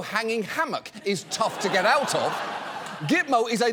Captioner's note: audience laughs